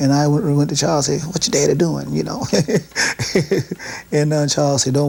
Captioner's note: laughs